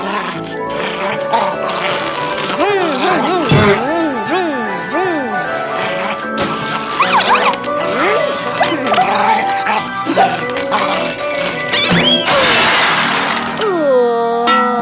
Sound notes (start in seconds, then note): 12.0 big crash